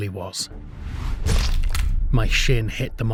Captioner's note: SFX contact crash